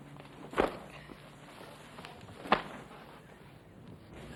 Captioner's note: towel clatters